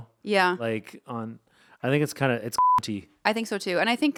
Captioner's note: beep